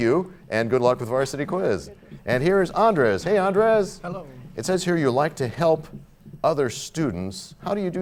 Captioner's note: none